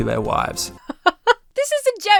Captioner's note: laughs